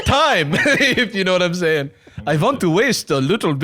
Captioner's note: laughs